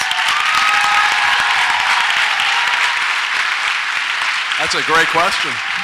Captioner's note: audience applauds and cheers